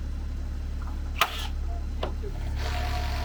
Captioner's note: tool buzzes